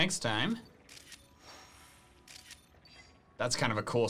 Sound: photo snapping

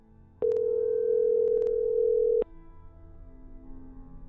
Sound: phone ringing

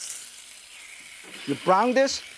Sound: beef sizzles

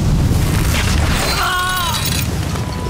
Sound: screaming

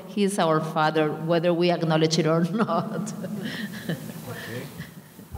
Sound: laughing

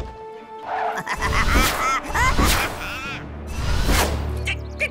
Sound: laughing

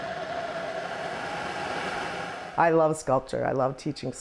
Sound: hissing

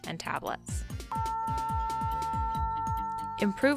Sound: alert tone

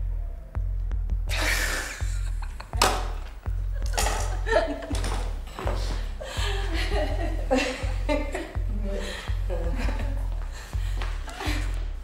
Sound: they laugh

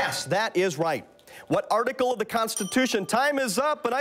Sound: bell rings

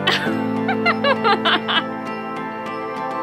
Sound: laughter

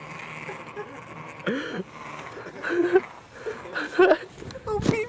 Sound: laughter

